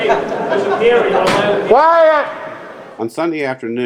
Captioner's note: hard object slamming